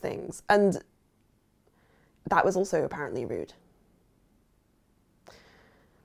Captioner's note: sighs